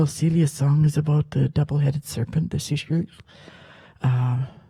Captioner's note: speaks Halkomelem